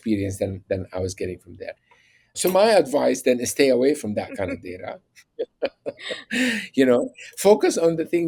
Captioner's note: laughs